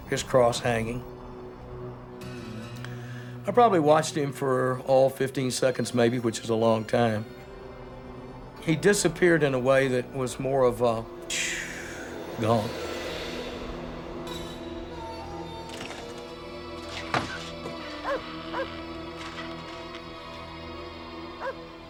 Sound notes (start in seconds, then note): 18.0 dog barking